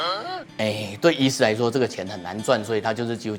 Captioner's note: crying and crying